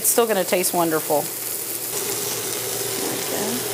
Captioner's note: cooking sounds